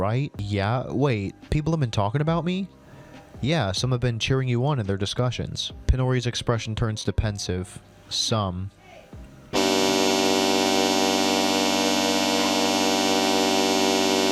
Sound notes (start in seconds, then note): 8.3 yells "HEY!" in the bg